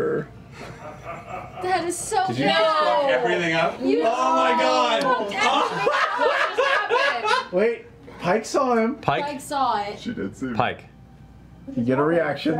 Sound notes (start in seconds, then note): 5.2 laughs